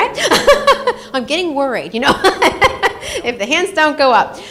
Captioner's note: laughs